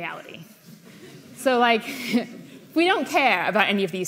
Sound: chuckles

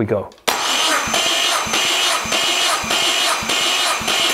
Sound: engine start

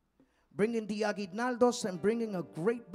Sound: speaking in Spanish

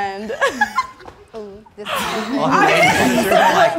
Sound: group laughing

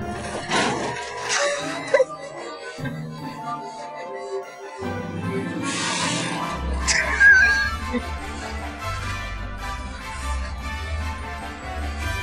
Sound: laughing

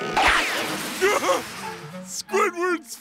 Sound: laughs

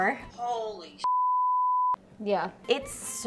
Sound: beep

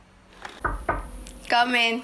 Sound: Basil knocks the door

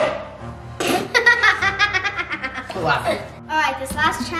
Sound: laughing

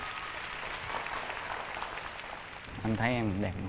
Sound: clapping hands

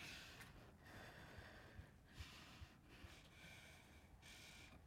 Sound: heavy breathing

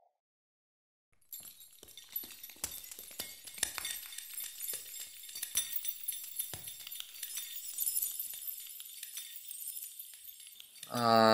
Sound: otherworldly Glittering Noise

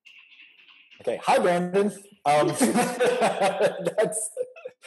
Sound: laughing

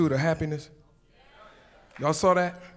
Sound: audience murmurs

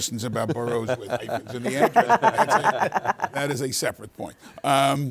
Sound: all laughing

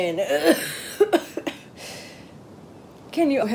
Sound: H2O coughs

